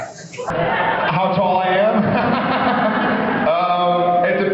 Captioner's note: laughs